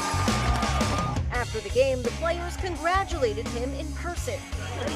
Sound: cheers and applause

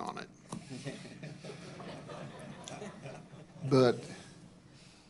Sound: laughter

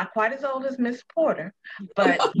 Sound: laughter

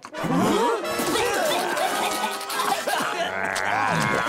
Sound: coughing

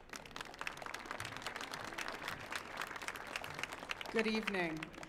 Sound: audience applauding

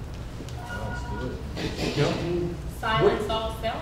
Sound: cell phone alerting

